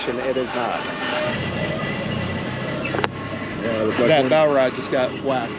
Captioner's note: boat engine running